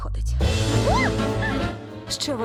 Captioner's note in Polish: krzyczy